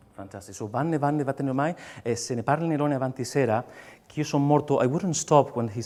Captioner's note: speaks lyrics in foreign language